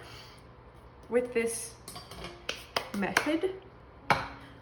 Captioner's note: wiping hands